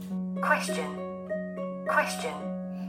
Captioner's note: robotic voice